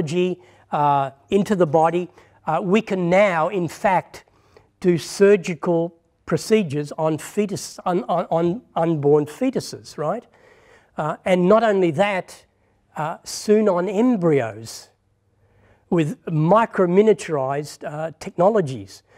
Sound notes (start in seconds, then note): none